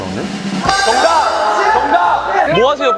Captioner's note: shouting out "Answer"